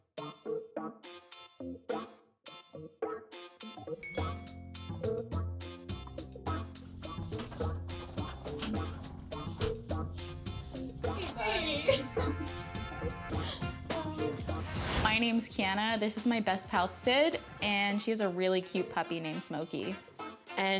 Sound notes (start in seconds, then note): 4.0 message dings; 5.1 funky music